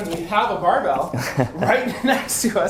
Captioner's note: laughs